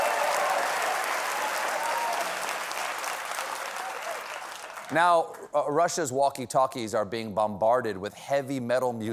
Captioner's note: cheers and applause